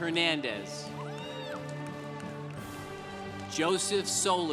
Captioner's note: congregation applauding